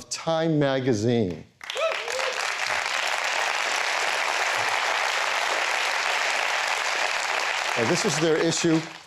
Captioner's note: applause